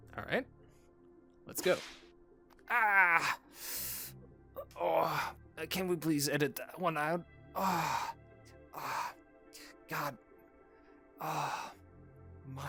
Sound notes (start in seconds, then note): 1.6 slap; 4.8 pain noises